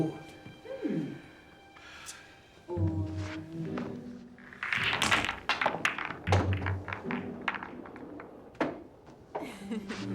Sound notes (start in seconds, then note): 3.8 pool balls clacking